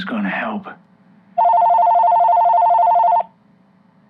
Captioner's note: phone rings